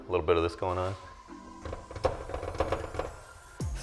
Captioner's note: rattling